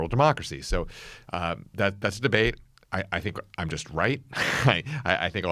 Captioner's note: laughs